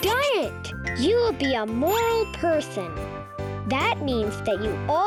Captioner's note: bell dinging